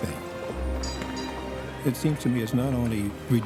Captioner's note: bell ringing